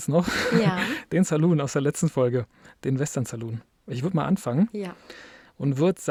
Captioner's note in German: gelächter; japst